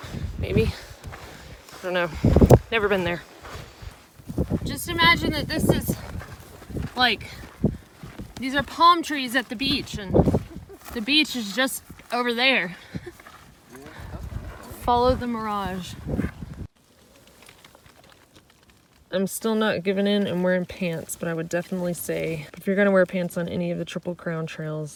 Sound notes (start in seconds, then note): 10.3 laughs